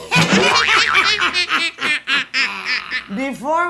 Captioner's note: Grimhilde and Cruella laughing